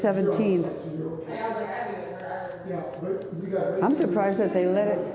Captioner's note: people talking in background